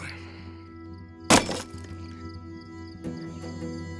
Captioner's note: wood chops